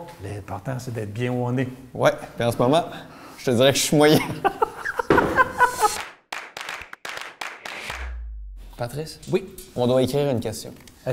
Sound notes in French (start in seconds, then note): 4.2 rire